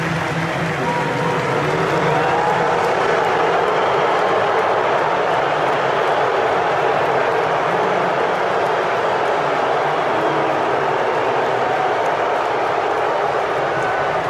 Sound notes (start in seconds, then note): 0.0 boos